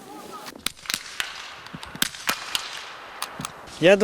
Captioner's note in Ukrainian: постріли